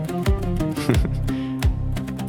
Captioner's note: laughs